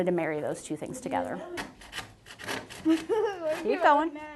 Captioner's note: sawing